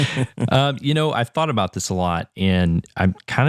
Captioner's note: laugh